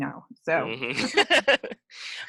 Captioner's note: laughing